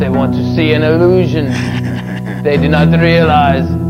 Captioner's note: Groden cackles